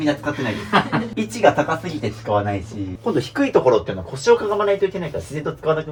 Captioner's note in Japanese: 笑い